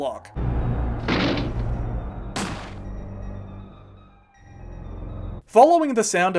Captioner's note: Regina SMASH! Followed by distant gunfire